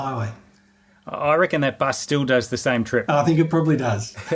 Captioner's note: laughing